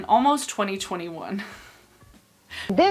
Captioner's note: laughs